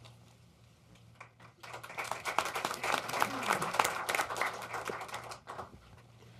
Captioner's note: applause